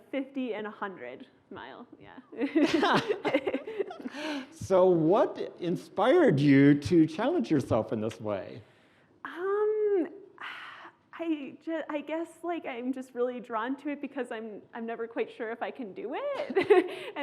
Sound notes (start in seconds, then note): 2.3 laughing